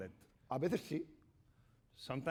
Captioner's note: speaking spanish